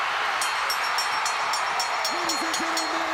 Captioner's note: crowd cheering; bell ringing